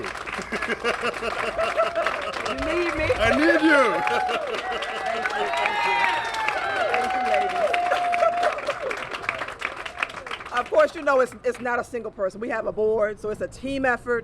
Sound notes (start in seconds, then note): 0.2 laughter; 1.1 applause; 4.1 cheers and applause